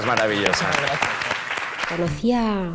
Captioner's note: applause